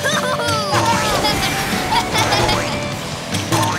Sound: laughing

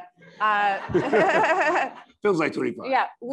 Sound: laughs

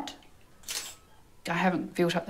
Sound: camera shutter snapping

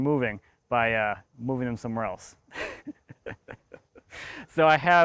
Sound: laughs

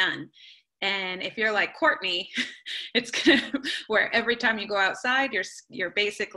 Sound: laughing

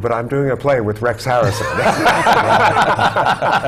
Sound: laugh

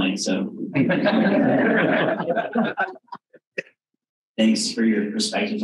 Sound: all laughing

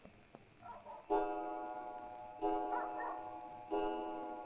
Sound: bell Tolling

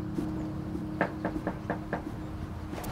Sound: knocking on door

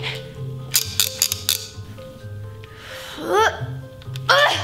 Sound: footsteps clattering; device creaking; grunting

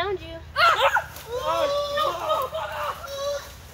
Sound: kids yelling

